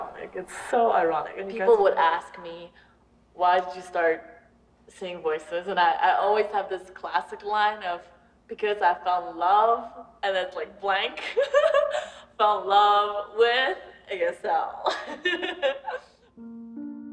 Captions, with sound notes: It's so ironic. People would ask me-- “Why did you start Seeing Voices?”, and I always have this classic line of-- “because I fell in love” And then it's blank (laughs) fell in love with-- ASL. (laughs)